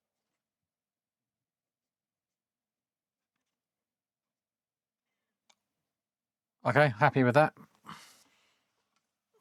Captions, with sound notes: (Silence) Okay, happy with that.